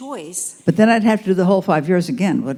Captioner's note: voiceover